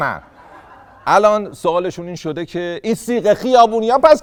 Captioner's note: laughter